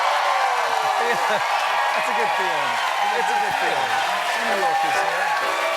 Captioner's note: cheers and applause